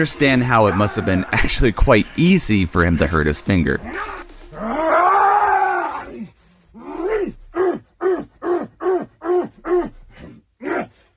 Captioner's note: grunts and growls